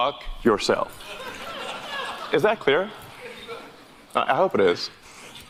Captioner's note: audience laughter